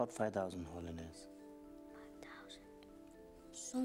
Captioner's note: whispers